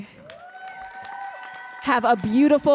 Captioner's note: audience cheering and applauding